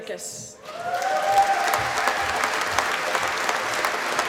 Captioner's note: applause